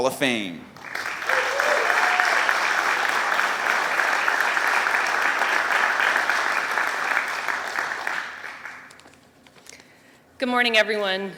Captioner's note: applause